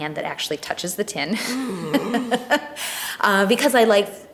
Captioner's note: laughs